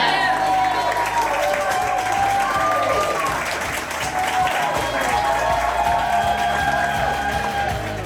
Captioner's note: crowd clapping and cheering